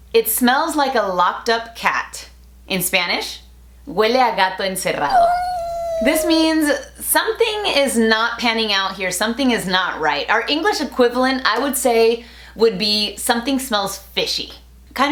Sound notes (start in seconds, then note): 5.0 cat meowing